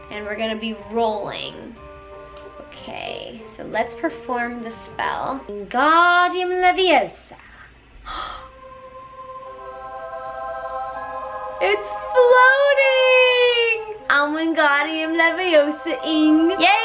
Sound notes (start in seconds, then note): 8.0 gasps